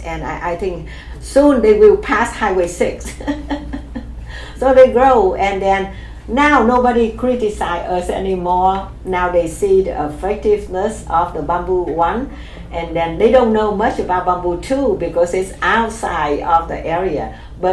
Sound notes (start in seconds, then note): 3.0 laughs